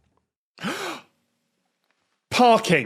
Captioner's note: gasps loudly